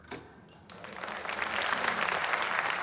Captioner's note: cheers, applause